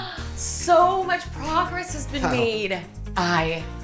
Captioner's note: gasps